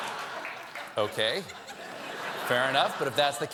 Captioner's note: laughter